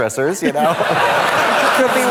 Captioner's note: audience laughs